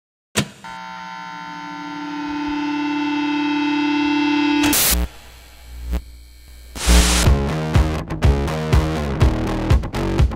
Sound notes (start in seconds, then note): 1.5 feedback building; 6.7 rock music begins